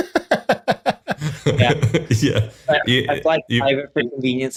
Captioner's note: laughs